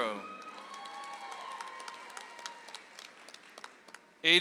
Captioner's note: audience applauds